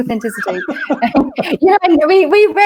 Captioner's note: laughter